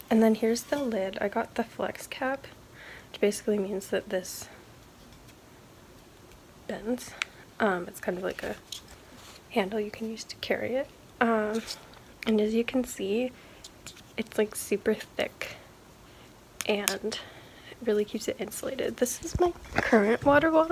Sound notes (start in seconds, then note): 15.4 taps